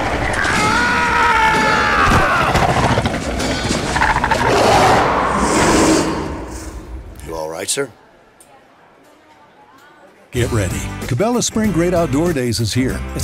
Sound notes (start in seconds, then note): 0.3 scream of pain; 3.5 monstrous growling